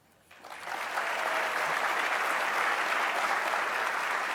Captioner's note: audience clapping